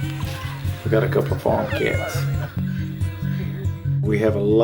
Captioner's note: cat meows